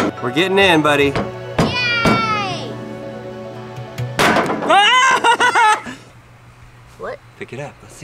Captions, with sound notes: We're getting in, buddy. - Yay! (excited shouting) What? - Pick it up.